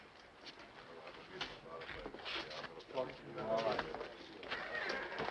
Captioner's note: townspeople chattering